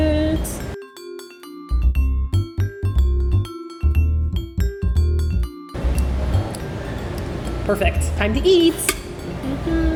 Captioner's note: lip smacking sounds; mmmmm...ohh....mmmm